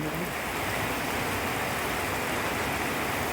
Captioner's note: heavy rain